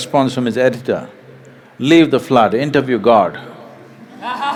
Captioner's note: laugh